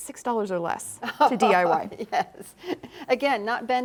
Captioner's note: chuckles